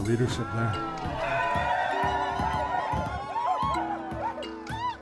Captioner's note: people cheering